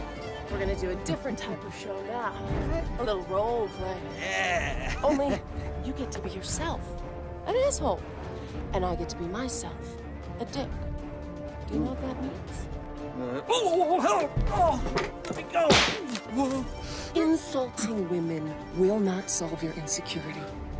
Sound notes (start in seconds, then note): 13.4 Hubert groans; 15.6 whip cracks